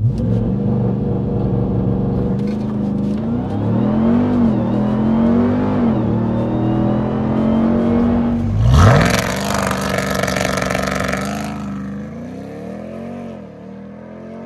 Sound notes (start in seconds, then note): 0.1 vehicle engine roaring; 8.5 vehicle engine revving